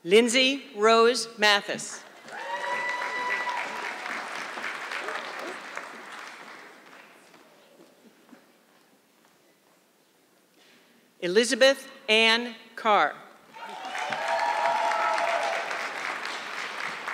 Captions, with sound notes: Lindsey Rose Matthis. (audience clapping) Elizabeth Anne Carr. (audience clapping)